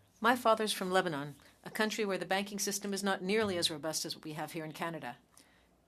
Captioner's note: speaking French